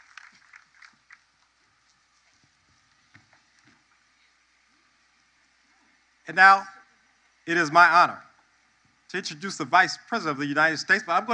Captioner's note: applause